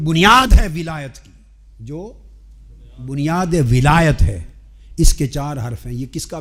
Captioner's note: in Arabic